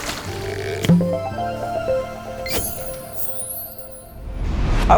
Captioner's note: playful chime